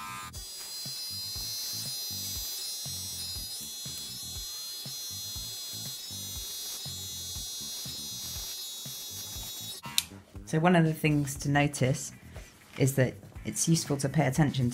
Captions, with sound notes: [CLICK] So one of the things to notice is that it's useful to pay attention